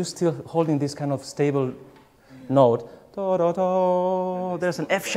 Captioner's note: hums